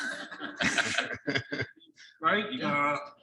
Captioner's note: audience laughing